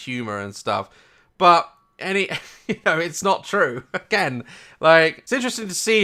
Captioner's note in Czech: smích